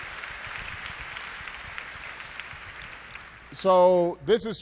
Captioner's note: applause